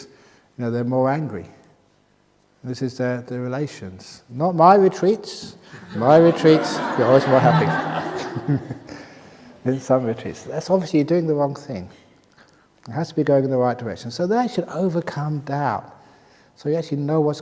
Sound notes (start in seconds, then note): 5.7 laughter